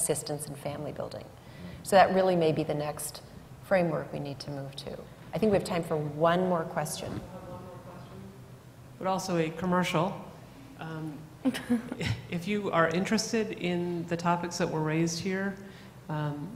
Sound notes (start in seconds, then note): 8.9 voiceover